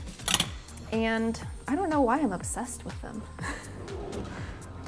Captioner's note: laughs